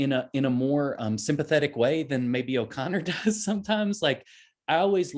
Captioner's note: chuckles